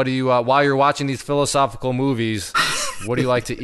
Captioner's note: chuckles